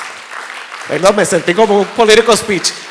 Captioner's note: people clapping